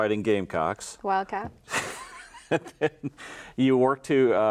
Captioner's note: laughing